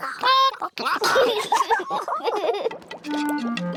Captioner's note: children giggle; chickens chatter